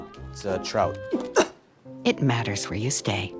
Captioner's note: gags